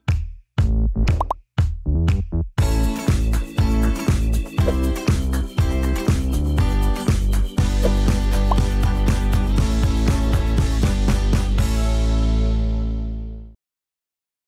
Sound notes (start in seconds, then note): 4.7 air whooshing; 6.0 upbeat music continues